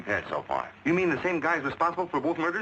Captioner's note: pat